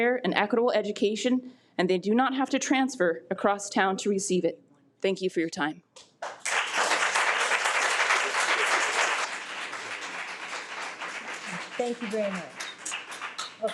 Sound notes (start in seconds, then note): 6.2 audience clapping